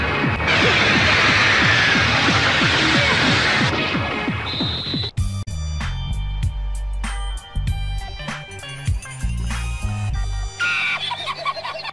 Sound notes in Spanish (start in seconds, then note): 10.6 Angry Noises